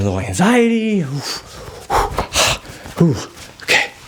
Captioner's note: huffing